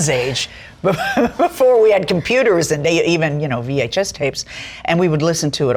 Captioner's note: laughs